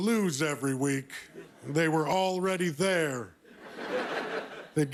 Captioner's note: laughter